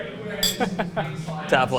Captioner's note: laughing; glasses clink